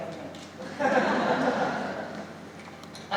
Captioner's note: laughter